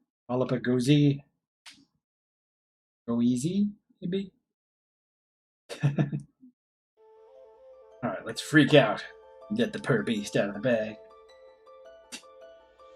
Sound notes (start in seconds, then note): 5.7 chuckles